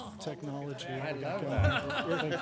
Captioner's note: laughter